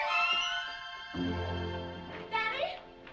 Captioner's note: none